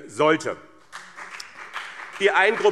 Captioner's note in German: Beifall BÜNDNIS 90/DIE GRÜNEN und CDU